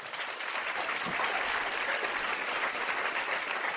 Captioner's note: applause